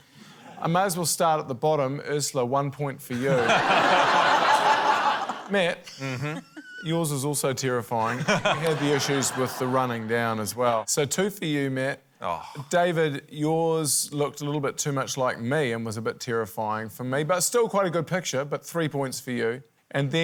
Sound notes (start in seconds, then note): 3.1 laughter